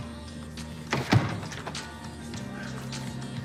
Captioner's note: door shuts